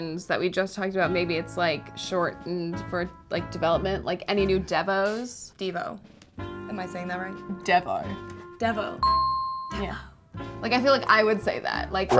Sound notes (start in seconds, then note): 9.2 dinging